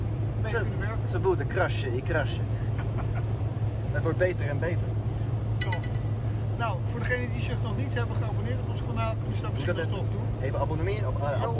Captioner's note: laughing